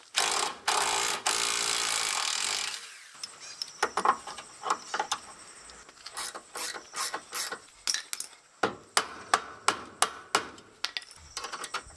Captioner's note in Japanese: 作業音